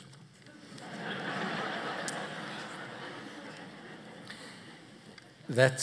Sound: laughter

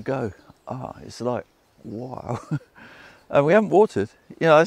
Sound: laughs

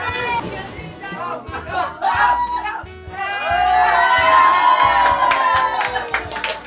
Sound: all cheer

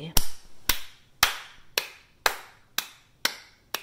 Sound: clapping sound

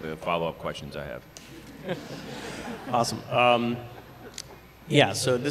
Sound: laughter

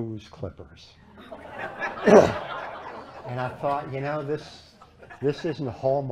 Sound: laughter

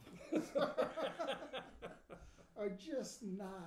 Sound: laughing

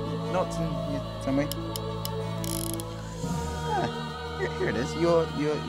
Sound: dart gun clicking

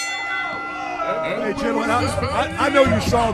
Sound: bell ringing; crowd groaning

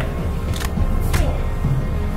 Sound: gun Clicks Harmlessly

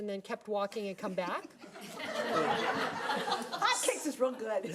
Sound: people laughing

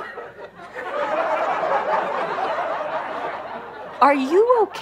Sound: audience laughter

